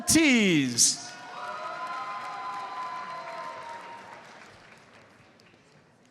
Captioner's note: audience cheers and applauds